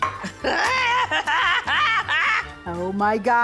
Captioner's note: screams, cackles